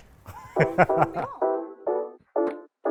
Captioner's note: laughs